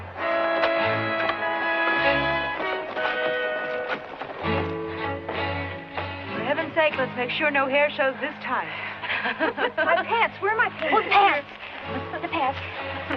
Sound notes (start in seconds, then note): 0.2 tense music; 9.0 laughing